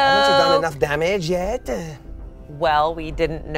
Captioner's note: none